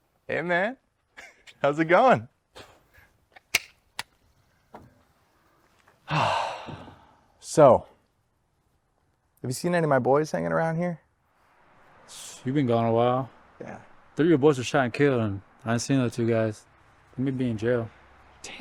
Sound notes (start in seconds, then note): 1.1 chuckles; 6.0 sighs